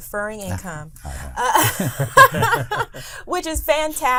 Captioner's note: all laughs